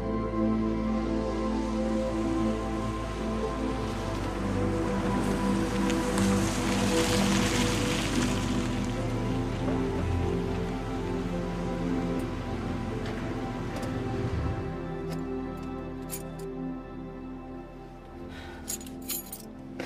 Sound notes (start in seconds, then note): 16.0 keys jangling; 18.3 sighs